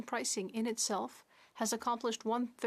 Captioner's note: speaking French